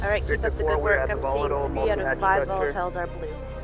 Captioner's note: radio chatter